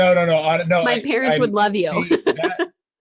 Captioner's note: laughing